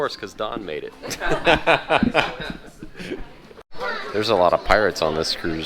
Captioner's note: laughs